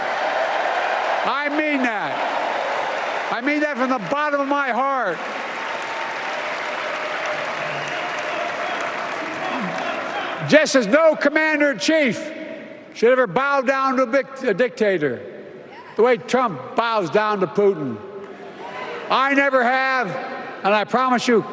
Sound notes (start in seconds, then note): 8.4 applause